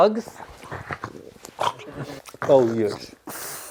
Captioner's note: dog growling